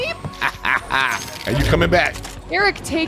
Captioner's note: laughs